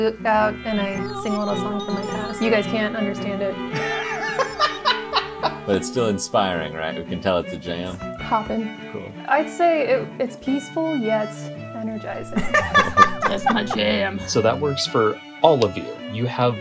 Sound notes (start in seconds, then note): 3.7 laughter; 12.3 laughter